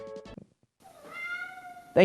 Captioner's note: meow